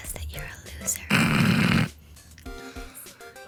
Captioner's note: snort